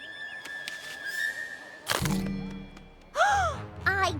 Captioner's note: crunch!; gasps